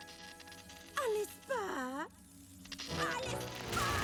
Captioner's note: sweetly